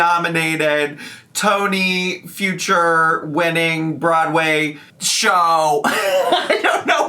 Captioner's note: laughing